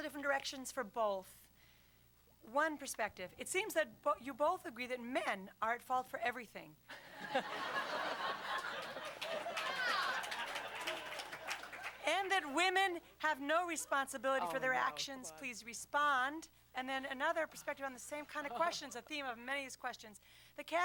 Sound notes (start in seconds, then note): 6.9 laughter; 8.5 applause